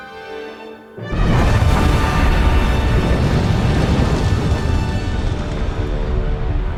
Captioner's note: dramatic music; lava whooshing